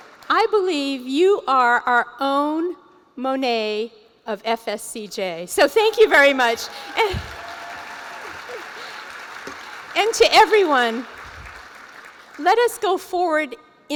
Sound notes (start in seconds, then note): 6.0 cheering